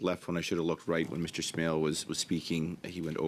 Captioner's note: speaking French